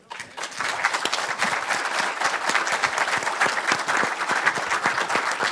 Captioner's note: audience and participants applaud